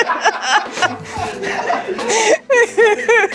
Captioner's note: laughing